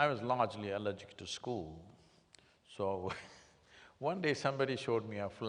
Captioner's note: laughs